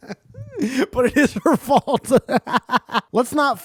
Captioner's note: laughs